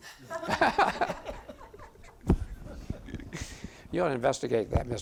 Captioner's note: audience laughing